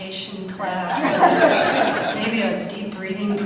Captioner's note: audience laughs